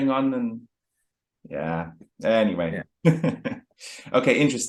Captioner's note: chuckles